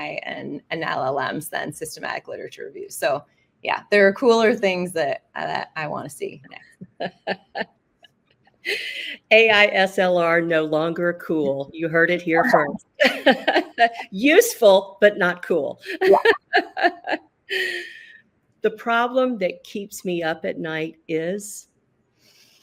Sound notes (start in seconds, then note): 6.7 laughs; 12.9 laughs